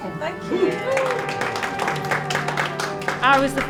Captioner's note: applause